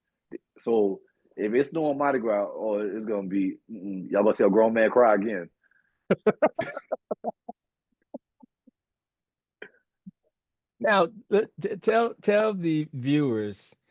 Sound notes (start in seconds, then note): 6.1 laughing